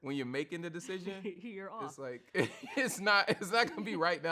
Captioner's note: chuckles; laughs